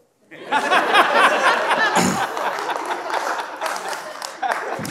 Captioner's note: audience laughing